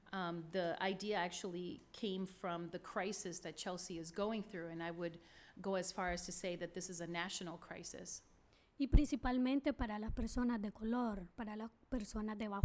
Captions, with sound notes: The idea actually came from the crisis that Chelsea is going through, and I would go as far as to say that this is a national crisis. [SPEAKING SPANISH]